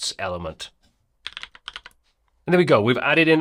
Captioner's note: typing